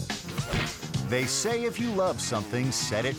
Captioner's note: upbeat music; logo swooshing